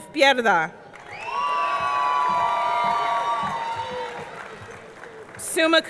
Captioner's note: audience clapping; audience cheering